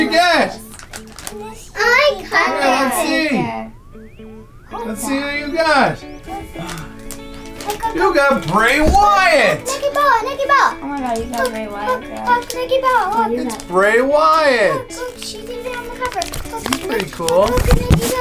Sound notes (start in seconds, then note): 9.7 children mumbling